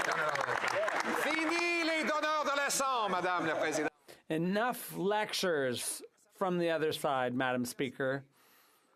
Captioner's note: applause